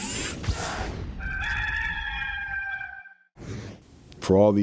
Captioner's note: rooster crows